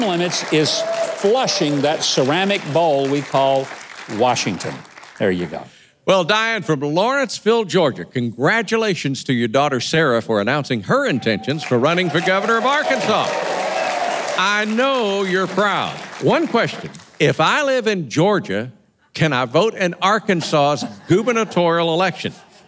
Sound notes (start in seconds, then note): 13.4 audience clapping; 20.4 audience laughing